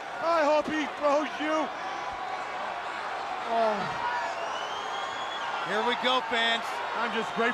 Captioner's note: crowd chatter